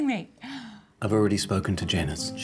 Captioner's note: Laura gasps